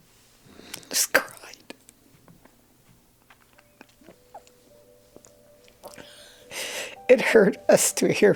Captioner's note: crying